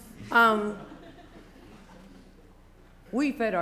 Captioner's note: laughter